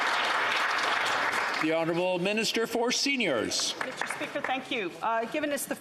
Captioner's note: some Applause